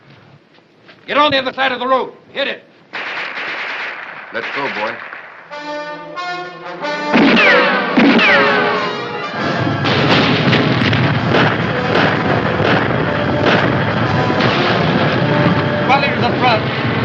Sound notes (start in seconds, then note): 2.9 gunshots